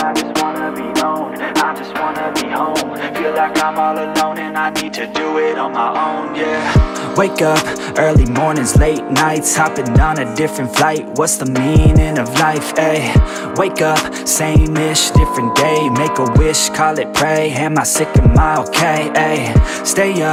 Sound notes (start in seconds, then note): 15.1 timer beep